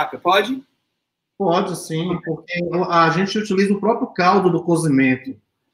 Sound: speaks portuguese

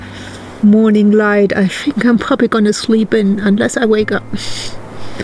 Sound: laughs

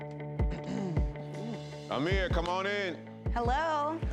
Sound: clears throat

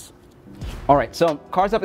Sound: air whooshing

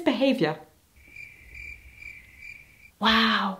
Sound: crickets sfx

